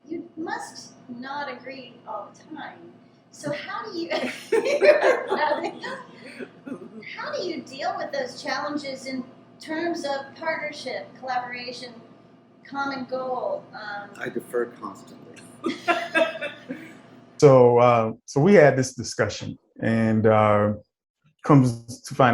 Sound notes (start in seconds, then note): 4.1 laughter; 14.1 laughs